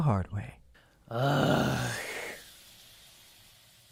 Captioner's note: Zayden groans in disdain